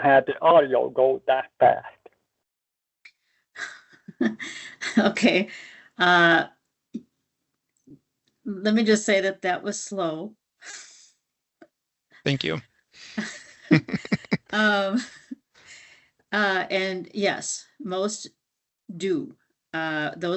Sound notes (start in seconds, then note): 4.8 laughs